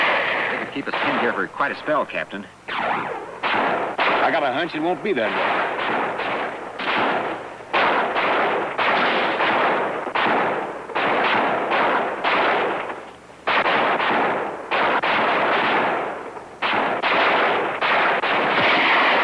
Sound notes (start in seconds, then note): 5.6 gunfire